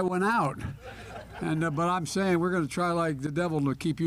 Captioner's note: laughter